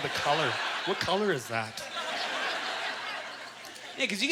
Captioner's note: audience laughter